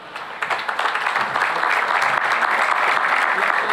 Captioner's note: applause